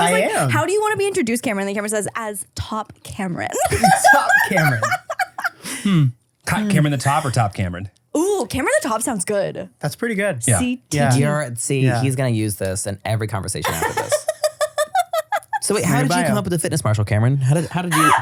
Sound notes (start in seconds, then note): 3.5 laughing; 13.6 laughs